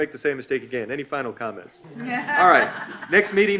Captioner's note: all laugh